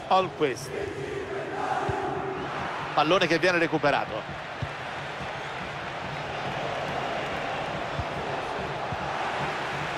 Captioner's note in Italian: Applauso